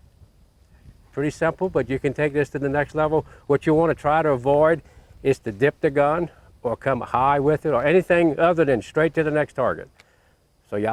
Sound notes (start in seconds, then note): none